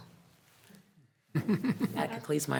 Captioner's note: trustee laughs